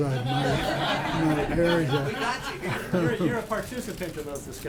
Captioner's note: laughter